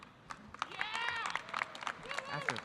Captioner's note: audience applauding